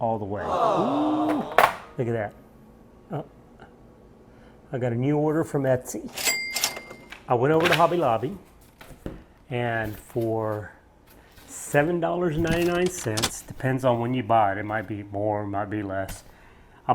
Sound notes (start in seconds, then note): 0.3 aww sound; 7.5 cash drawer sound